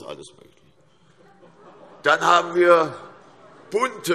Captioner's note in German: Heiterkeit und Zurufe